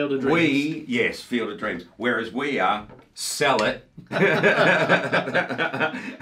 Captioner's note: laughs